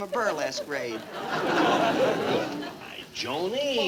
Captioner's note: audience laughing